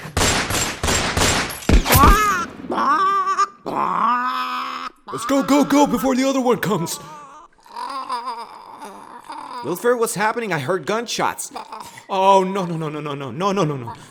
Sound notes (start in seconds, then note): 0.0 gunshots sounds; 2.6 goose in pain sounds